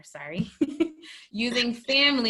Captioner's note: laugh